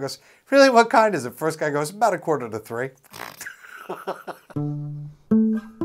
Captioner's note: laughs